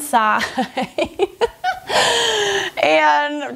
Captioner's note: laughs